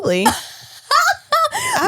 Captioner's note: laughs